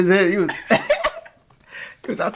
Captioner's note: laughing